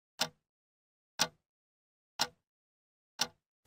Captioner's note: clock ticking